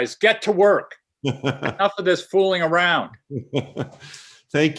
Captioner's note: laughter